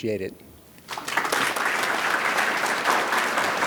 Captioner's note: audience claps